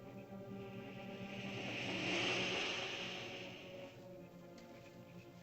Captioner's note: frogs croaking; ominous music; lizard makes hissing sound; ominous music